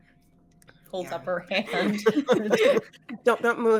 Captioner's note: all three laughing